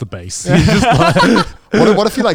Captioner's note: both laughing